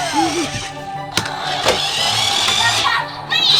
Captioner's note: laughs